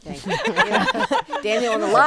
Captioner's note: group laughing